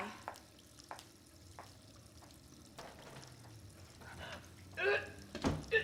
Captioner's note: water running; vomiting